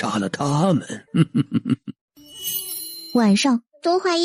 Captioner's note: chuckles coldly